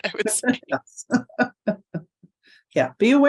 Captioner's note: laughing